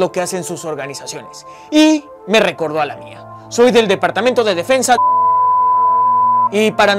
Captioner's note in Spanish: beep